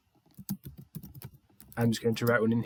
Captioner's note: keyboard clacking